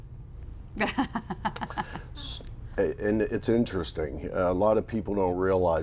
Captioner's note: laughter